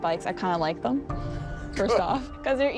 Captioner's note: laughs